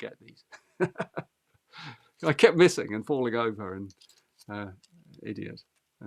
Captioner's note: laughs